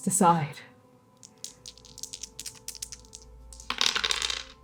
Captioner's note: shaking dice; dice rolling